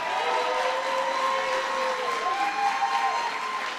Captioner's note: applause